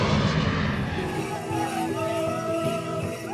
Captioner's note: crowd chanting